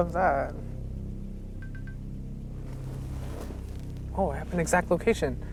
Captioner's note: suspenseful music continues; monitor beeping